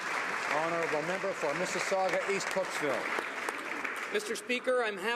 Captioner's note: some Applause